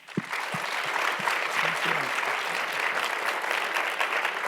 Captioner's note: audience applauding